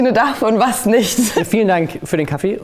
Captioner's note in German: Lachen